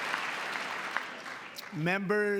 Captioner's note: applause